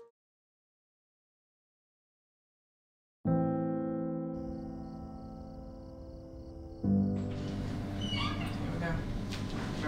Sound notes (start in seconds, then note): 3.3 somber instrumental music; 4.3 crickets chirping; 7.2 elevator doors creaking